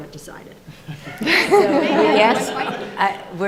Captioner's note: audience laughing